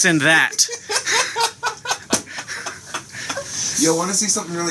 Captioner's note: laughs